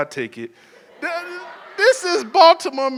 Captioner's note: audience chuckles